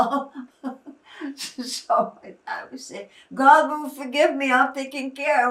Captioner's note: laughing